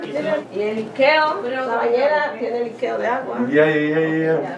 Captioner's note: speaking in Spanish